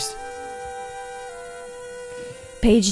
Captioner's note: sound of mosquito buzzing